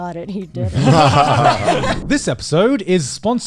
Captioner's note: all laughing